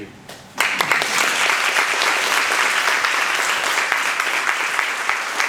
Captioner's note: participants applauding